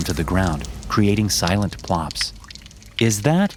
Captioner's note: dripping